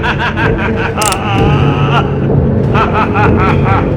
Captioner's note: gun clicks; fortuneteller laughs